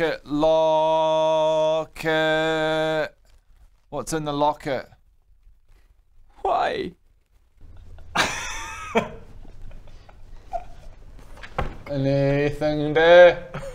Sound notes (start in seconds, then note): 7.6 laughs